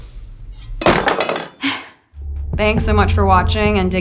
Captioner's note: knife clanging